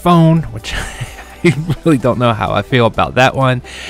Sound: laughs

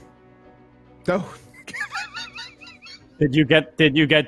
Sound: laughs

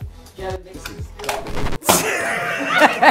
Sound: metal crashing; Regina laughing

